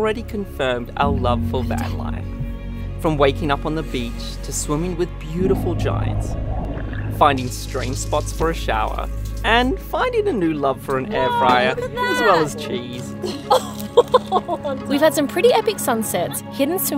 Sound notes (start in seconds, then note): 13.2 laughs